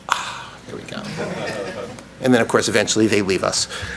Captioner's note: audience laughs